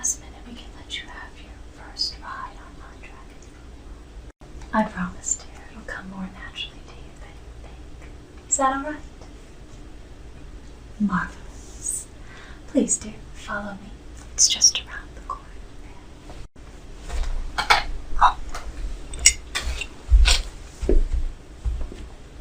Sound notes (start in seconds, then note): 17.6 clanking and lifting cup; 19.5 footsteps